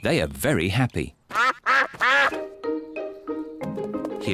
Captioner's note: ducks quack